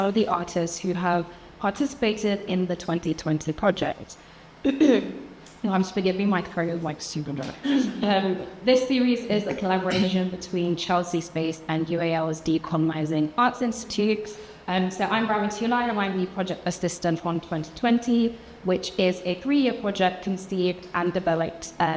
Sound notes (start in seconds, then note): 4.6 clears throat